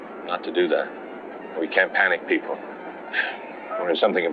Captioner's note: sighs